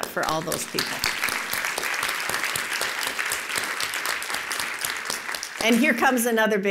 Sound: applause

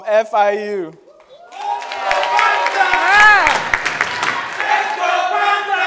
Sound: crowd cheering

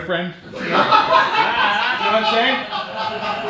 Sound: audience laughing

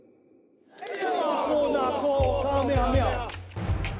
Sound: chanting

